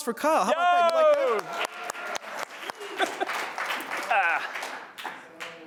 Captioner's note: cheers and applause